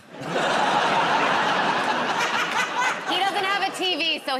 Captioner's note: laughter